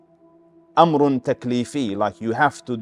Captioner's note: Arabic